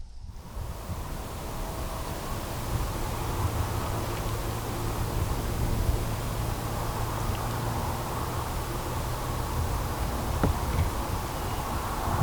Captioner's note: wind